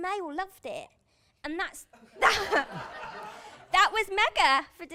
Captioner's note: laughter